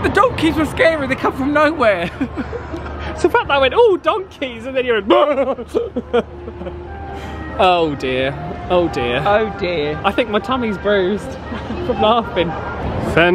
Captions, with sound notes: The donkeys were scary, they come from nowhere! It's the fact that I went, "Oh donkeys." And then you went *imitates yelp* Oh dear. I think my tummy's bruised from laughing.